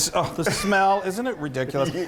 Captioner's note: laughs